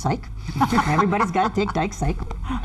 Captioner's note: laughs